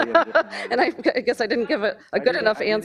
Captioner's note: laughing; laughing drowns out words